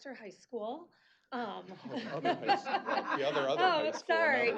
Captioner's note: laughter